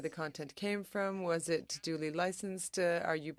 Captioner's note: speaking French